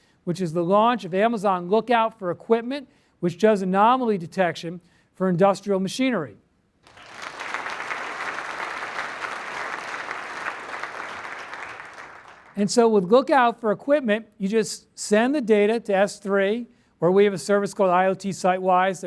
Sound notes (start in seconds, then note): 6.8 applause